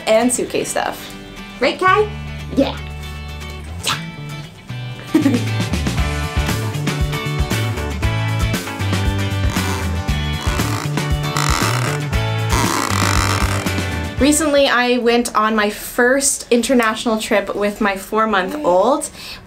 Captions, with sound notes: and suitcase stuff. Right, Kai? Yeah, yeah! (giggles) (upbeat music) Recently, I went on my first international trip with my four-month-old.